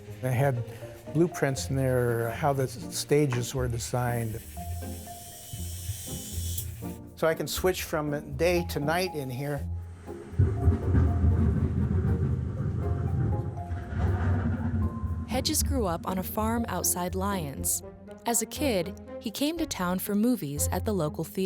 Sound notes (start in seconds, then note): 5.4 jacob's ladder working; 10.3 thunder rumbles